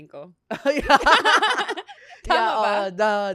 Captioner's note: laughs